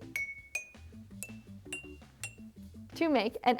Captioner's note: jars tinking